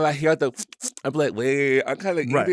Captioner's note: smacks lips